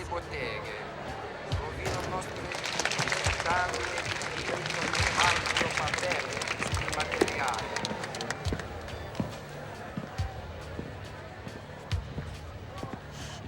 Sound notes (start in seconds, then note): 1.6 applause